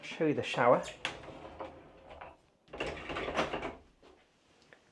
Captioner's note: shower door scraping